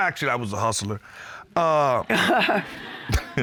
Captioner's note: chuckles; laughing